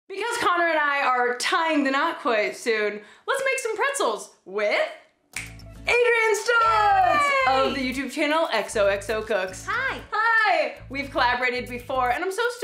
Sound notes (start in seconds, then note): 5.3 snap